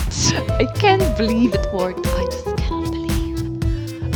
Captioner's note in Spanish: susurra